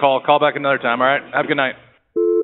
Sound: phone ringing

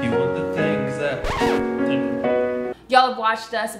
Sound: record scratches

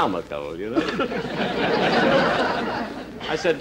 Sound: audience Chuckling

